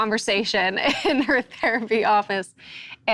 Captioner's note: laughs